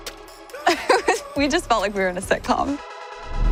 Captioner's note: chuckles